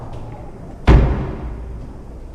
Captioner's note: knock